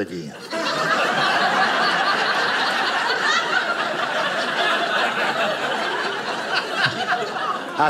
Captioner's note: audience laughing